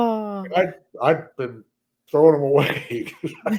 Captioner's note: all laugh